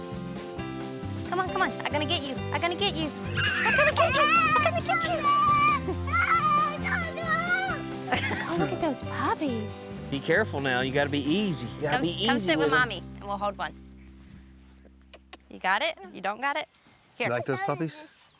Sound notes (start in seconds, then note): 3.3 screaming; 8.0 laughs